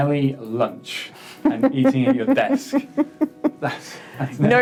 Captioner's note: laughs